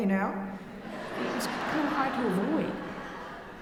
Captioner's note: audience laughing